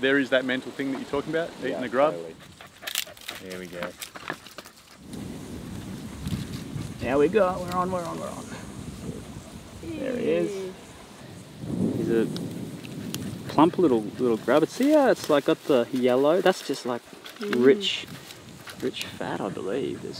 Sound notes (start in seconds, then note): 2.0 dog panting